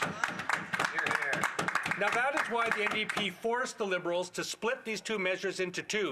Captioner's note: some Applause